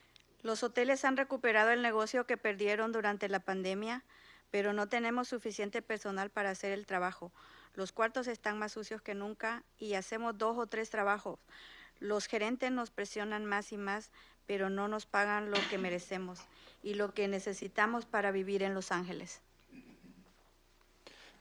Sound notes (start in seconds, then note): 0.8 speaking in Spanish